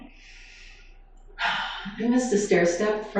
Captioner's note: sighs